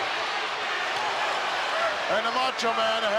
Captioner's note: crowd boos